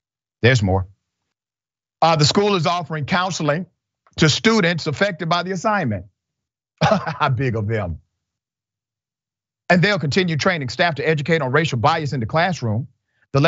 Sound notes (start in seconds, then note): 6.8 laugh